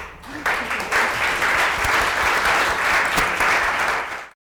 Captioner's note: audience applause